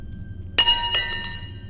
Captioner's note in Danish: Høj lys metallyd